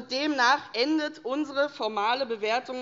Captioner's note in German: none